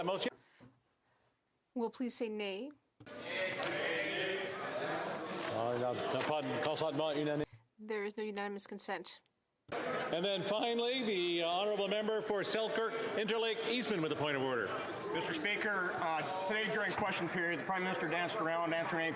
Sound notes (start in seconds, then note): 4.6 some Applause